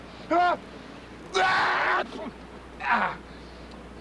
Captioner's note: ah-choo!